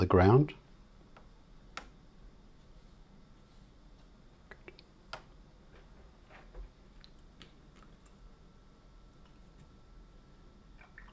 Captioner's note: silence